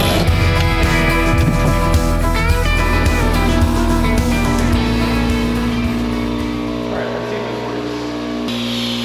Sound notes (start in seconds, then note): 2.9 compressor whirring